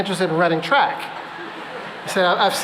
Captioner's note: laughter